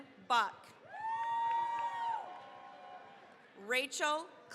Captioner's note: cheering, applause